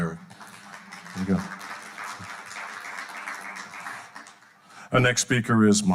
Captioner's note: audience applauding